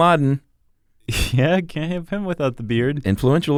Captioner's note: laughs